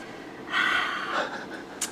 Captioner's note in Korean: 한숨